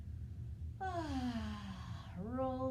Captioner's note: sighs